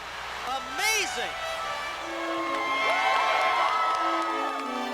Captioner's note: loud cheering